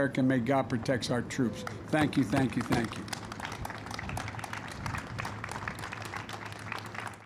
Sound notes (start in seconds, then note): 2.2 applause